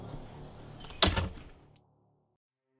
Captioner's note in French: Bruit de porte